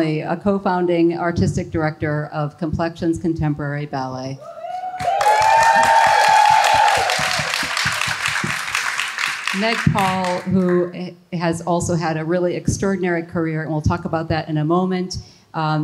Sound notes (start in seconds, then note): 4.5 audience cheers and applauds